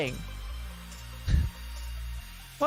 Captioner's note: huff